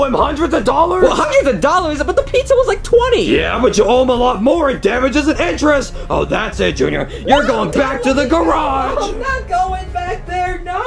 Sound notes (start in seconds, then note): 7.2 whimpers